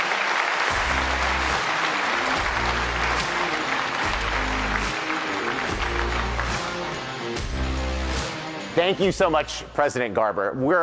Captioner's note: applause